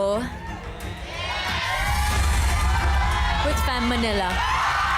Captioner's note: suspenseful music continues; indistinct screaming